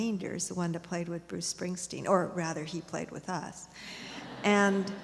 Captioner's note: laughter